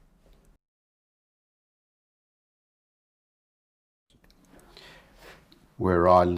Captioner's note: silence